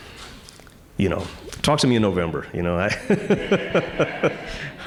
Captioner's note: chuckling